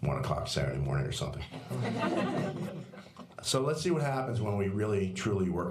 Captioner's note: laughter